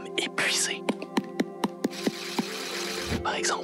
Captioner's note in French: tapotements et vibration